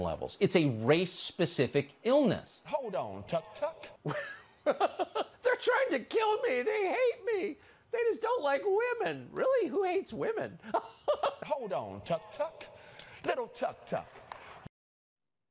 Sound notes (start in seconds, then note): 4.0 laugh; 10.5 laugh